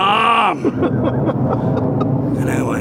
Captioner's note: laughing